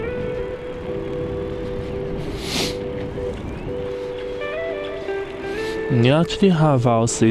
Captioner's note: wind Blowing